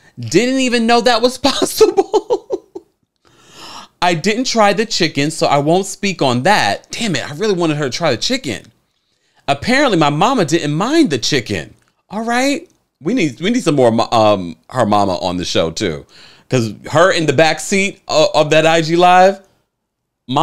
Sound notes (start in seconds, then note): 1.8 laughs